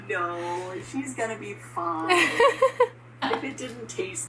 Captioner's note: woman laughs